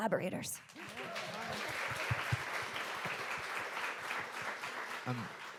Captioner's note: audience applauding